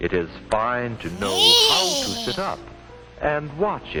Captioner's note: weird haggy goblinny "hnneeee!" noise